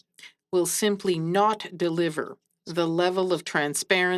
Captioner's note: speaking French